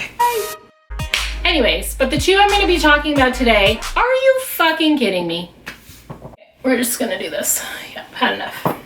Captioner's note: claps